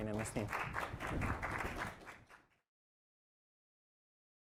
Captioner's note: applause